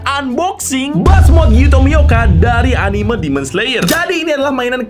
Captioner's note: exploasion